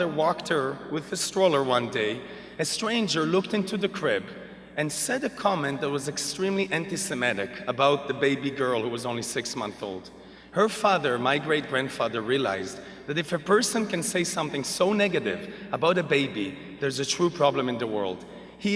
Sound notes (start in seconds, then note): none